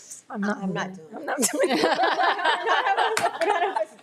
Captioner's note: attendees chuckling; chuckles